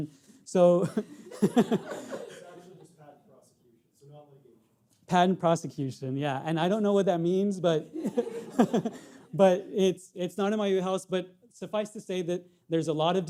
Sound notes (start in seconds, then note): 1.0 audience laughing; 7.9 audience laughing; 7.9 laughs